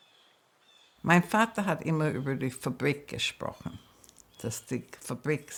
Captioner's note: speaking in German